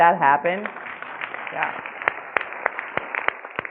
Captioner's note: clapping